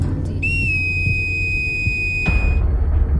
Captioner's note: whistle